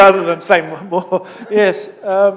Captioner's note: laughter